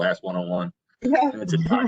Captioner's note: laughter